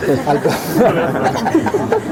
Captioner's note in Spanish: risas